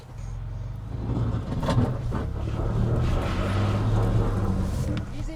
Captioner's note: engine whirring